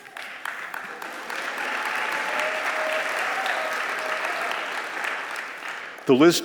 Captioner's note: applause